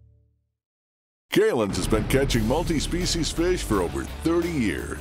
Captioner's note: voiceover